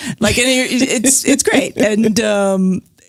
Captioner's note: laughs